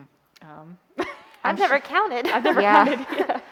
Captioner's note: chuckles